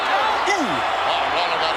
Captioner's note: audience cheers